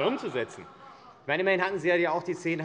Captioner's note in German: Heiterkeit und Beifall AfD